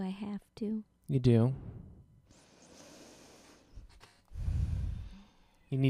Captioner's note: deep breath